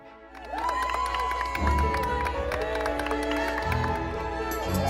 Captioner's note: clapping and cheering